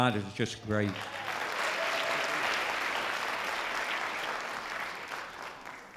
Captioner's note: loud audience applause